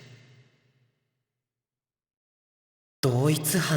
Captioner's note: silence